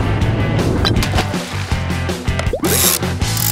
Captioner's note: splashing; whirring